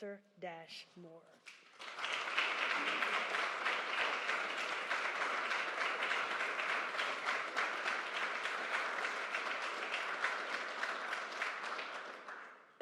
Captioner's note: applause